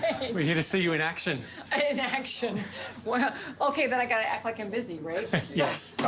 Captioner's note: laughing